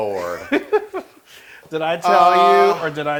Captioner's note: laugh